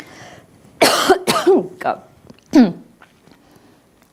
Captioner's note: coughing